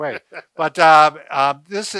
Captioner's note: laughs